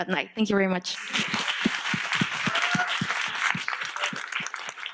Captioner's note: audience clapping